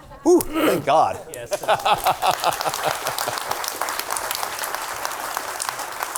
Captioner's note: claps; audience claps